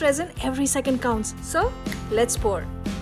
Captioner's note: finger snap